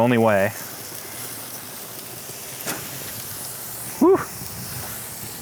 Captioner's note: food sizzling